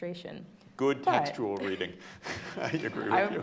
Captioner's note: laughing